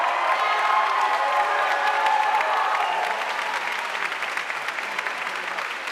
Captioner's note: audience cheering and applauding